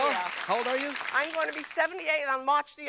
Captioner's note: applause